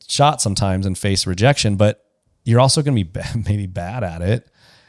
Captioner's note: laughs